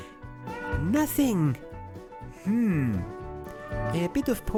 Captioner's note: excited